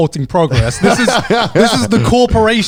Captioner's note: laughing